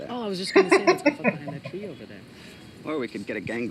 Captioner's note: laughing